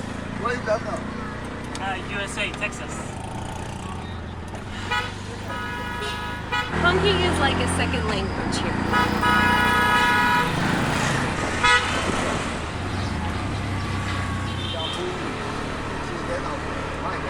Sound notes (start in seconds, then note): 4.8 street sounds, honking etc; 8.6 more honking